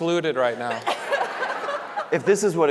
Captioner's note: panelists laughing; audience laughing